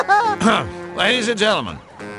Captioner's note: clears throat